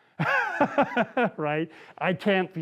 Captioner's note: laughs